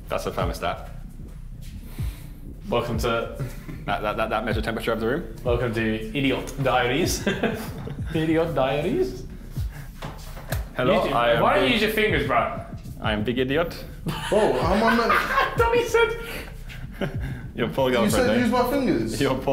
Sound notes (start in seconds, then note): 14.0 laughter